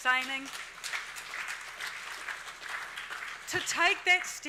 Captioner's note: audience applauding